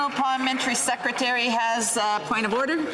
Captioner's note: applause